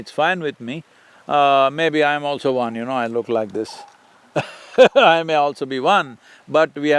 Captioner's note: laughs